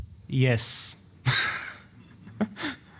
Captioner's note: laughs